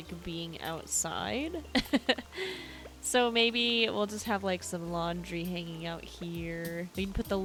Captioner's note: chuckles